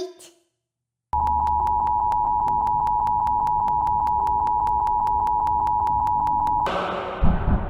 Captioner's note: super annoying monotone beeping